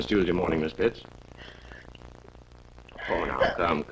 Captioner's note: crying